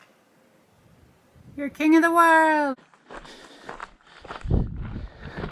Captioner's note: wind on microphone, breathing, footsteps on gravel